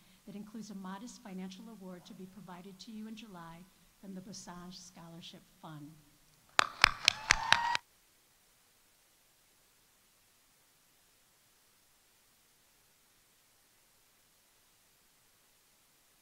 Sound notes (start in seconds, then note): 6.6 audience applauding; 6.7 audience cheering